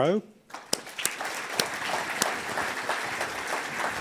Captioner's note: audience applauds